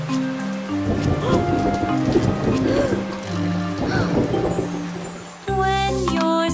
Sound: thunder booming; gasping

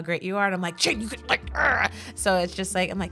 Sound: growls

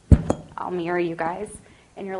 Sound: thumping

